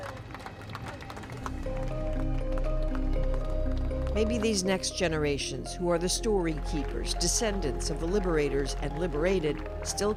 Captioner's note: applause